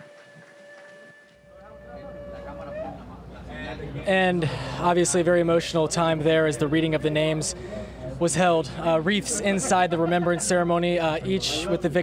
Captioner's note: applause